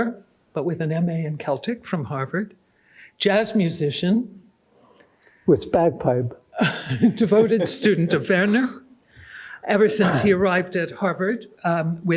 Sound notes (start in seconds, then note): 6.6 laughs